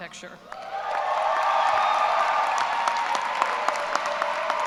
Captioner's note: cheers and applause